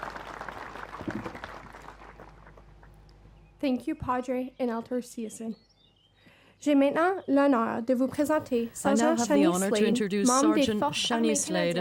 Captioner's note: applause; speaking French